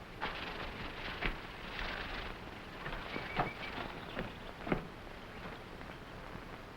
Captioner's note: gorilla rustling; jungle animals chattering